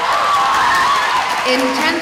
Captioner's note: audience applauding